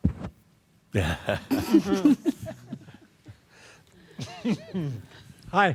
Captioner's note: chuckles